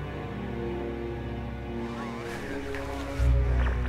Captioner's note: man On Radio